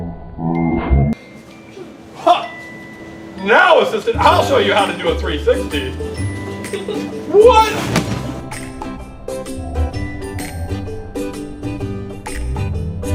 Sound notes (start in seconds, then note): none